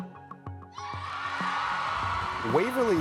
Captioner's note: crowd roars